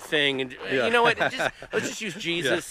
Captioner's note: laughing